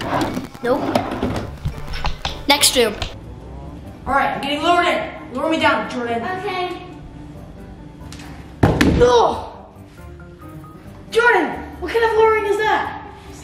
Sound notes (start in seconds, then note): 8.6 groans; 8.6 thuds